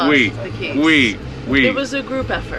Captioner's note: both laugh